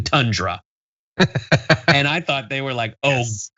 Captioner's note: laugh